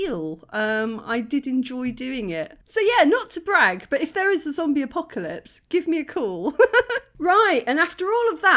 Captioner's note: laughing